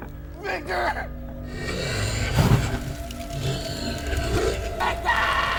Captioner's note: Niall growling